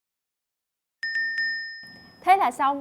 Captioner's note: correcting sound